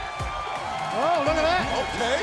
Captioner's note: cheers and applause